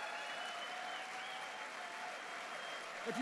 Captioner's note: applause